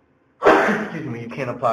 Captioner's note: sneezing